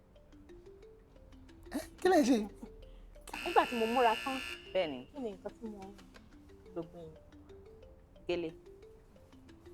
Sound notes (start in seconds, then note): 3.3 buzzer pressed